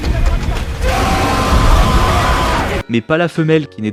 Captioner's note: screams of an angry man